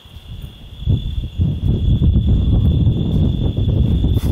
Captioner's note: wind howling; crickets chirping